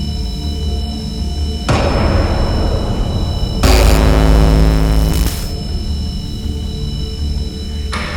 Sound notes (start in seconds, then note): 3.2 static rumbling